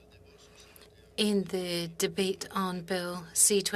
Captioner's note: speaking French